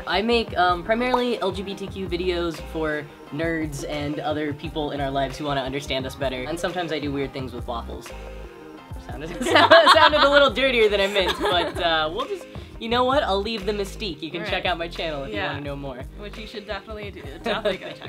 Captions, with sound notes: - I make primarily LGBTQ videos for nerds and other people in our lives who wanna understand us better, and sometimes I do weird things with waffles. (laughter) That sounded a little dirtier than I meant, but you know what? I'll leave the mystique. - Yeah. - You can check out my channel if you wanna do more. - Which you should definitely do.